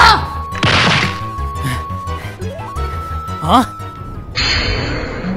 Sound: panting

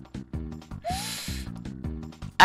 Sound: inhaling

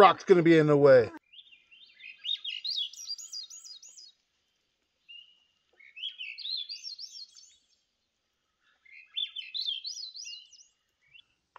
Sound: Swainson's Thrush warbling call

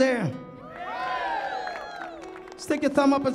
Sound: audience cheers

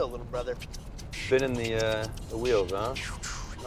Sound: beatboxing

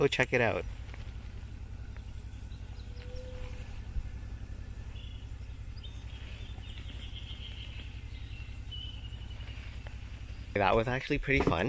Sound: sounds of birds and calm water

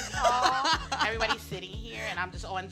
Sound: laughs

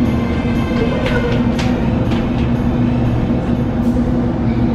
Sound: footsteps running

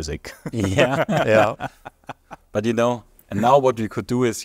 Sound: laughing

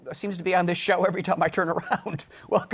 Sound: laughing

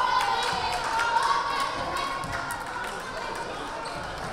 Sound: crowd chattering

